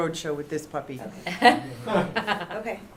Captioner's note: laughter